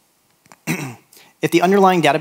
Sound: clears throat

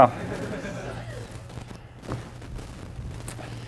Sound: class laughs

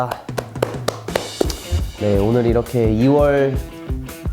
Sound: claps

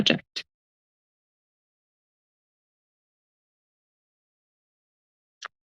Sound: pause

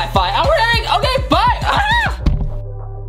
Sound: screams

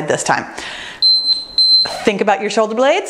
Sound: timer beeps

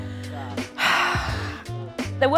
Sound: sighs

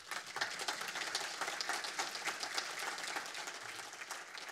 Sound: audience applauds

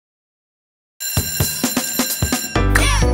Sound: bell ringing

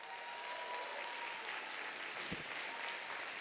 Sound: applause

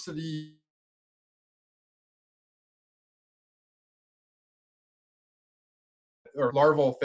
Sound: audios cuts out

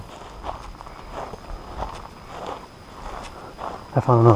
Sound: footsteps thudding

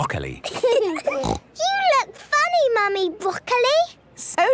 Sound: laughing, snort

